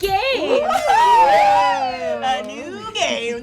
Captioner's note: all cheer